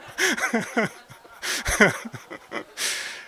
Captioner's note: laugh